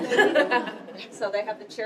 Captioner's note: laughter